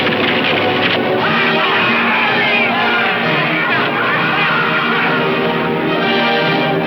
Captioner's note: dramatic music; men cheering